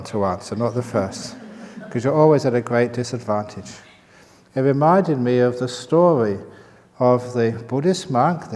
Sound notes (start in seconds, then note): 1.0 laughter